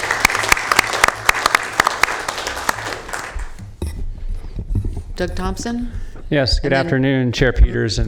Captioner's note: applause